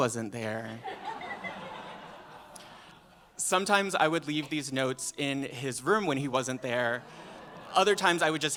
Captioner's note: laughter